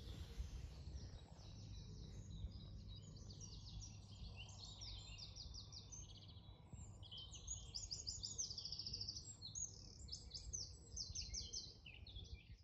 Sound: sound of birdsong

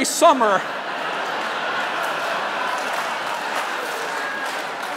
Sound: laughter

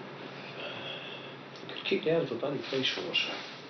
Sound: sighs

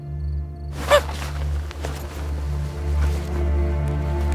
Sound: gasps fearfully; gloomy dramatic music

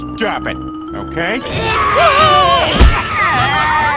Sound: more zombie noises

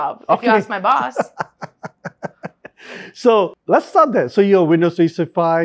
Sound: laughs

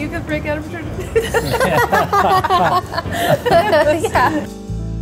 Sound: all laughing

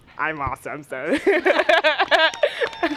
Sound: laughs

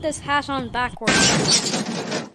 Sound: crash

